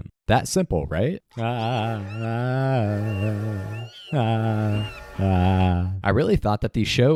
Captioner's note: frantic monkey noises